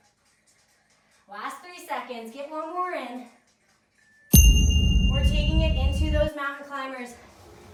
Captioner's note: ding